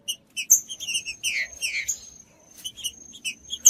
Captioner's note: trinca ferro cantando